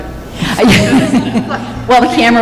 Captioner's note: laughter